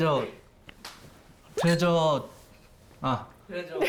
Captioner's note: stutters